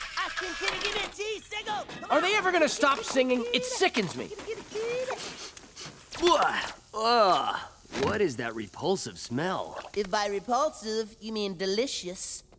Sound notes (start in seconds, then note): 5.1 sniffing